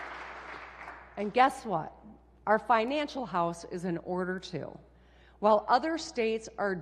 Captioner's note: applause